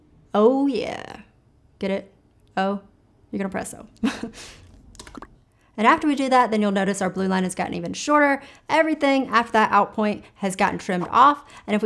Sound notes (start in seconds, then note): 4.0 giggling; 5.0 keyboard clicking